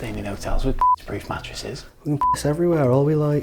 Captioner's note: beep